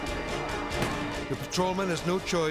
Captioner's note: gunshot resounds